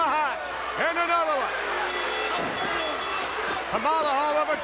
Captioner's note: bell rings